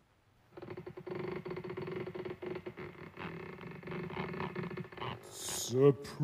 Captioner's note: creaking